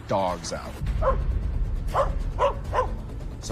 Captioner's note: barking